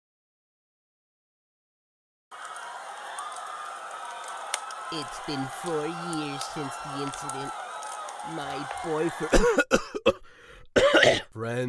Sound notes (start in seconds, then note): 2.3 screams of agony; 9.0 coughs aggressively